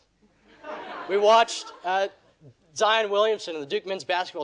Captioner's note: audience laughing